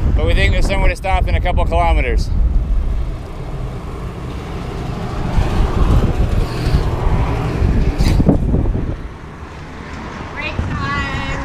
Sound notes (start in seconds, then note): 5.8 traffic driving